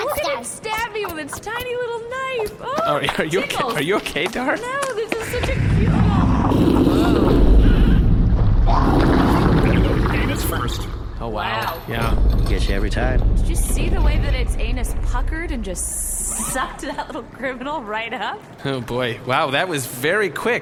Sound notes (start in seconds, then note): 5.9 the beast roars; 16.4 laughing